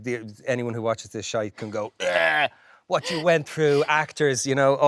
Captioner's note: imitates vomiting